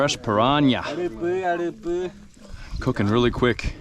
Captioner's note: speaking in foreign language